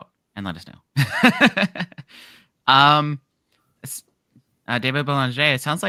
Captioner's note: laughs